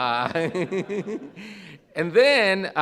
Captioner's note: audience laughs